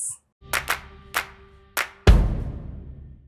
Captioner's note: hands clapping; drum thudding